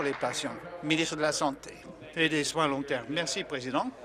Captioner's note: applause